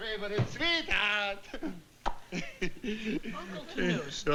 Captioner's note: laughs